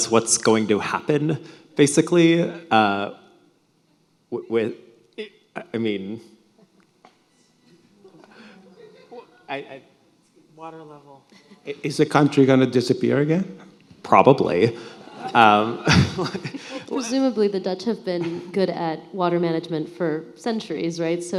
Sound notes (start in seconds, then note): 8.2 audience laughing; 14.6 audience laughing; 14.6 laughs